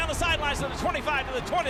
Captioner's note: whistles